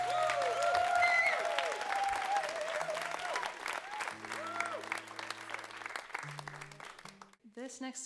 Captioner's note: crowd applause